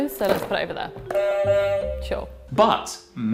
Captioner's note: buzzer buzzing